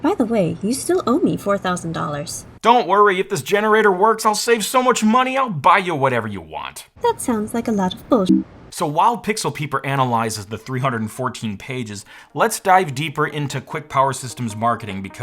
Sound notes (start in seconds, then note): 8.2 beep